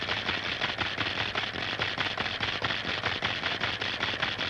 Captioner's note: machine clicking